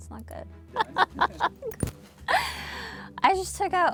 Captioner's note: laughing